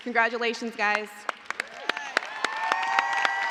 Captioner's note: cheers and applause